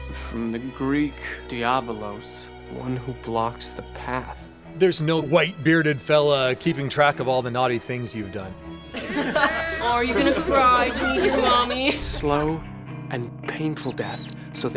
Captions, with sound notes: From the Greek Diabolos, one who blocks the path. There's no white bearded fella keeping track of all the naughty things you've done. (laughing) Aw, are you gonna cry to me, Mommy? Slow and painful death so